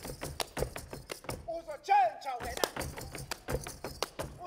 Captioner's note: feet stomping and hands clapping; speaking language other than English; feet stomping and hands clapping